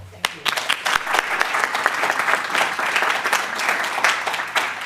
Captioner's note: applause